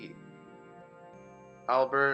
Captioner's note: awkward silence